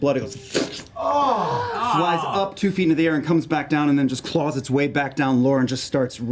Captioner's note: squelch